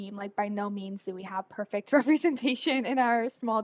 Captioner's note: laughing